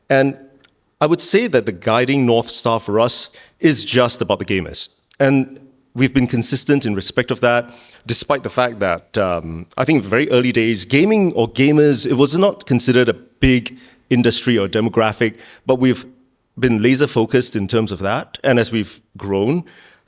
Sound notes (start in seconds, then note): none